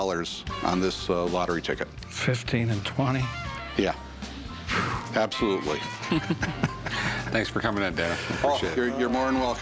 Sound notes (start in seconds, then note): 4.2 exhales; 6.0 laughter